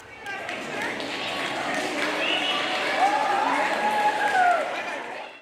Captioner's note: cheering